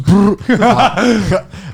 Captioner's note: laughing